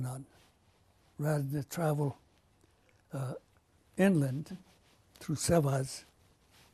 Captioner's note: non-english